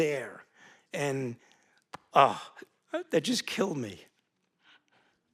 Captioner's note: gasps